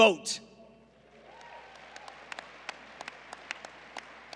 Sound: applause

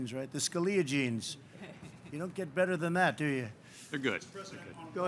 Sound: laughter

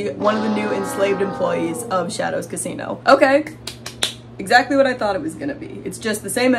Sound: hand slapping sounds

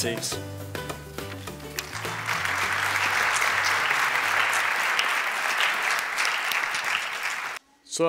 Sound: applause

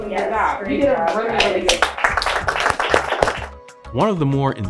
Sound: instructors clapping

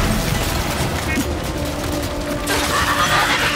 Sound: screams

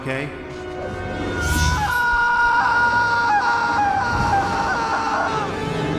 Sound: Tobey screams

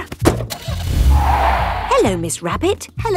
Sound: car starting; tires screeching

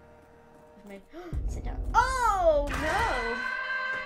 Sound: gasp

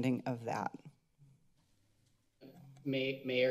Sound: silence

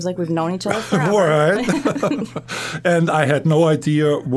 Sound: laughing

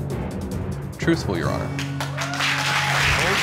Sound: audience applauding, cheering

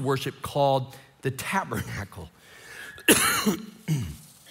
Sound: coughs

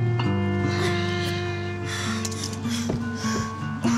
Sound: heavy breathing

